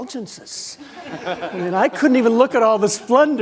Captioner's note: audience laughing